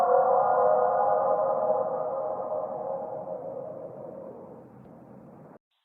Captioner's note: creature continues howling